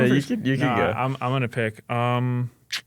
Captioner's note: laughs